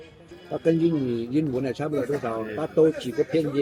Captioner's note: Vietnamese